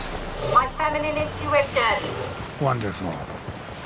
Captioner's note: indignantly